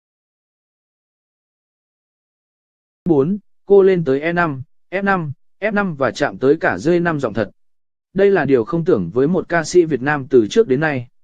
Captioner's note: giọng thật